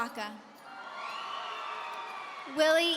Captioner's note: audience cheering